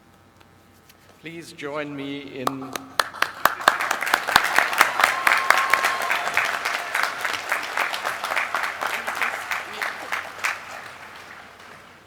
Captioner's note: applause; laughter